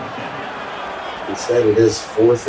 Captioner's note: crowd Noises